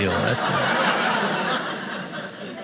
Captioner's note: audience laughing